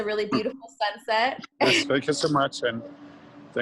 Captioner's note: chuckles